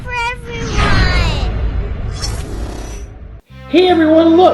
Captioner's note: whooshing